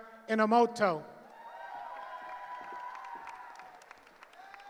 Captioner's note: cheering